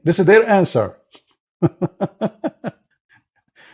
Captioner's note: Ketawa